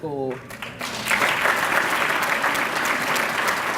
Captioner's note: applause